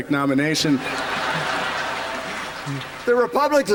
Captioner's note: laughter